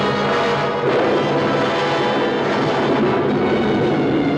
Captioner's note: thunderclap crashing